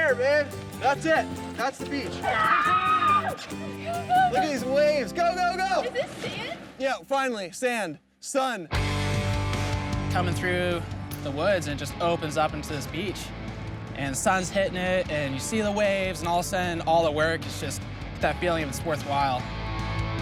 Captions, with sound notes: - We're there man, that's it, that's the beach. (screams) (upbeat music) Look at these waves, go, go, go. - Is this sand? - Yeah, finally. Sand, sun. (upbeat music) - Comin' through the woods and it just opens up into this beach and sun's hittin' it and you see the waves and all the sudden all the work is just that feeling is worth while.